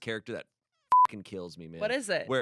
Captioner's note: beep